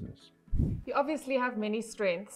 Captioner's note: air whooshing